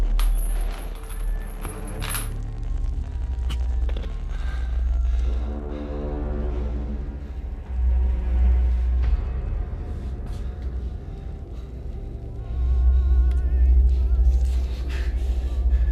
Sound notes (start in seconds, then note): 0.0 static crackling; 0.0 chain rattling; 2.3 static crackling; 6.2 Clint breathing heavily; 6.2 soft tense music; 13.3 muffled 1920's music; 15.7 Clint breathing heavily; 15.7 soft tense music